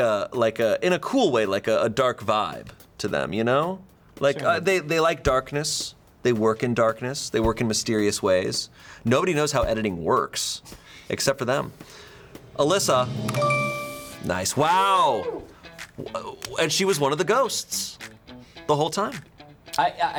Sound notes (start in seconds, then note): 12.1 tense music building; 13.2 bell chimes; 13.3 button clicks